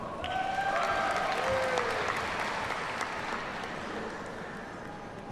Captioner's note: audience cheers and applauds